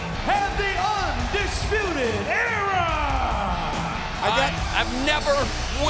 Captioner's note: fans cheering